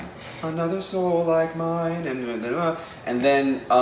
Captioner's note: none